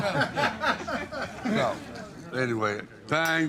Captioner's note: everyone laughing